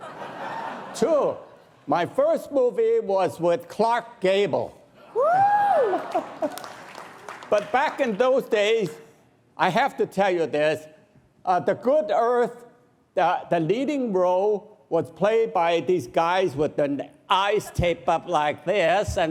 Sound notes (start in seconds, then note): 0.0 audience laughs; 5.9 audience claps